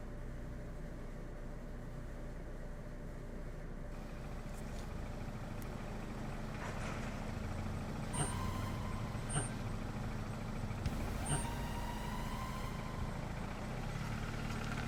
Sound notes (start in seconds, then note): 4.8 engine hums; 8.5 tense music